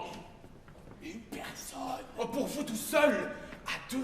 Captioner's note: BARON, whispering